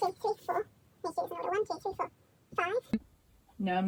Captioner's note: counting